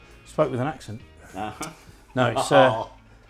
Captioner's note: laughs